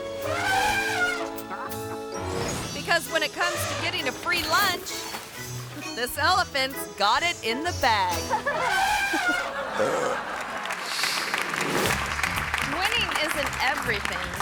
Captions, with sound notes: (elephant trumpeting) Because when it comes to getting a free lunch, this elephant's got it in the bag. (elephant trumpeting) (audience laughing) (elephant burping) (audience clapping) Winning isn't everything,